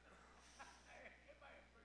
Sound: laughs

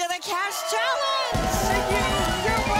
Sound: audience applause

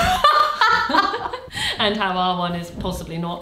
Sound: laughing

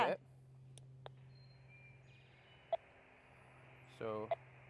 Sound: beep from transmitter

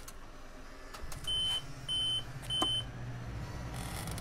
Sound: machine beeping

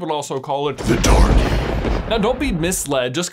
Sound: thunder clapping

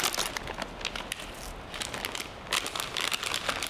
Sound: bags crinkling

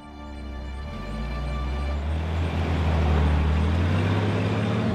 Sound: engine rumbling

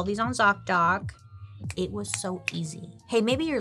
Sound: clicking fingers

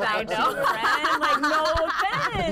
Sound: laughter

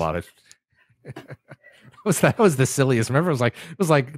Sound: laughs

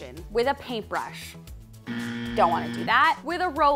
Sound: buzzer ringing

